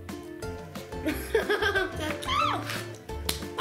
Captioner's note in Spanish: ríe